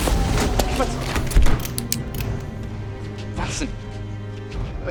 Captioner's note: corks firearms